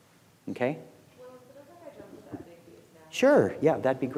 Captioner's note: speaking faintly